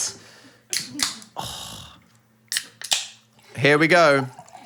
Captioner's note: can spritzing